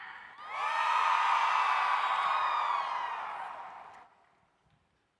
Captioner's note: audience cheering